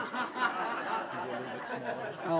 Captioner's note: laughter